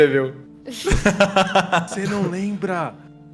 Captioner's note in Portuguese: risadas